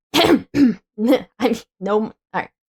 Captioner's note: coughing